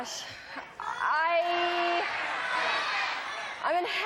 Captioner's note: chatter